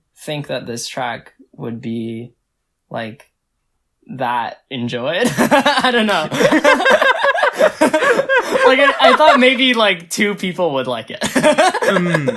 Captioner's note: laughs; both laugh